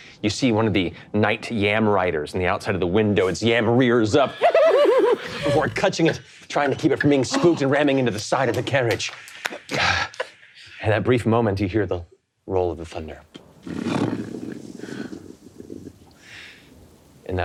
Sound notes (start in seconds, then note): 4.1 imitates yam neighing; 13.4 imitates thunder roaring